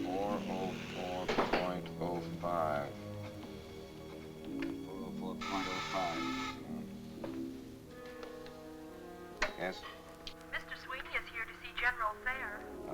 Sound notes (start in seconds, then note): 1.1 door closes; 5.4 buzzer sounds